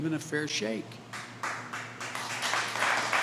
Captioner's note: applause